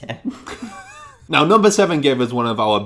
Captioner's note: laughter